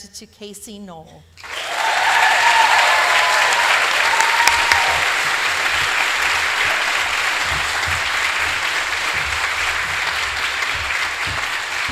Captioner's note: applause